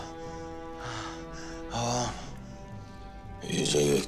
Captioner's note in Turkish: Hırıltılı nefes sesleri